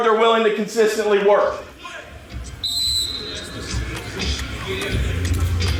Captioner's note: practice sounds and whistle; upbeat pop music